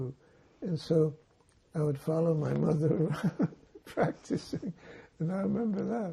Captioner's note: laughing